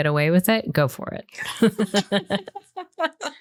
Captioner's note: laughter